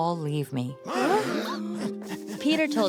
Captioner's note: gasps